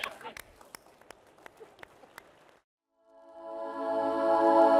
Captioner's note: applause